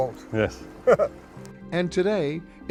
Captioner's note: chuckles